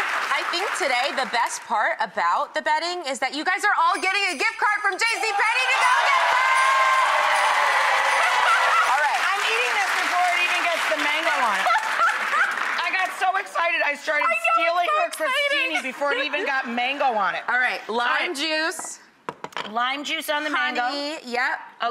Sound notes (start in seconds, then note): 6.9 roaring cheering; 11.2 joyful laughing